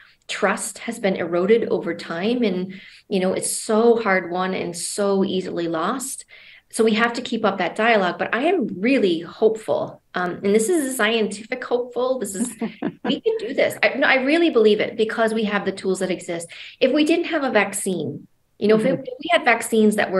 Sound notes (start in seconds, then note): 12.2 laughing